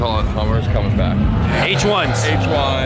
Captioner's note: car engine roaring